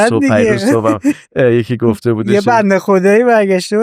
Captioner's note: laughs